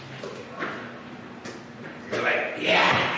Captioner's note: footsteps